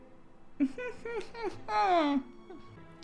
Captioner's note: chuckles